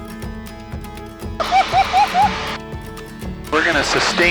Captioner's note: laughing